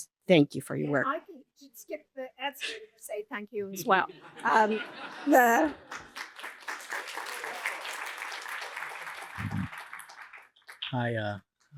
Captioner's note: applause